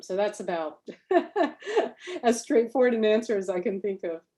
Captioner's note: laughs